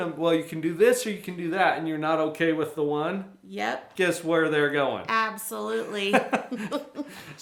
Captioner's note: both Laughs